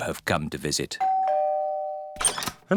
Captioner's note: doorbell rings